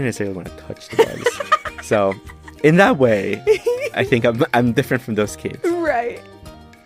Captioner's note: laughter